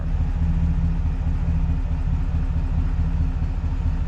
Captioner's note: engine revving